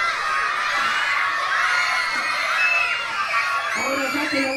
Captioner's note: children screaming